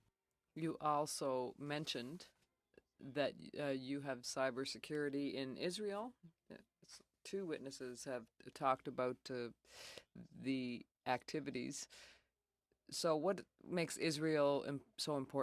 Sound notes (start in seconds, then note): 3.0 speaking French